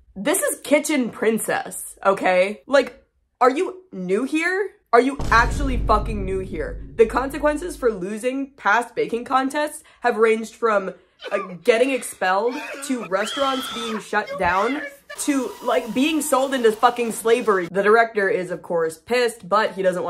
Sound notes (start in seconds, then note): 11.2 crying sounds; 11.2 screaming sound; 14.6 femur breaker scream